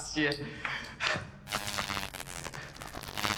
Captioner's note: electric shock